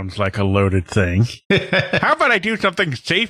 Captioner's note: chuckles